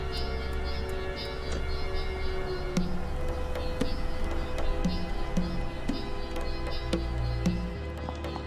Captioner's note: none